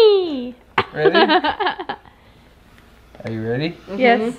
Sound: laughs

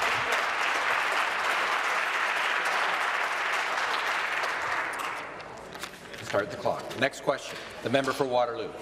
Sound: applause

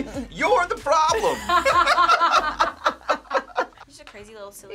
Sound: both laugh

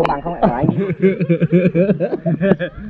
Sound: laughing

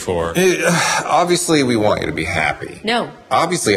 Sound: sighs

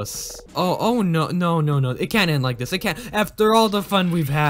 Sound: stammering

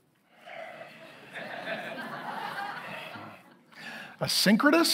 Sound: congregation laughing

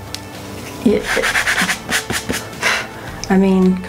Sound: palm rubbing; blows

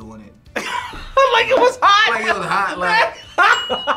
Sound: laughs

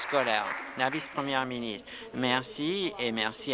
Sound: applause

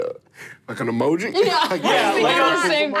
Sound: laughing

